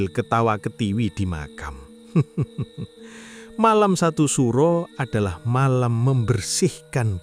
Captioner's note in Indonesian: tertawa